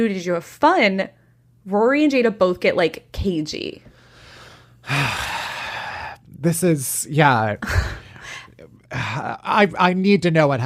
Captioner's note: sighs